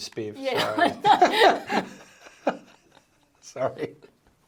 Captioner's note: both laughing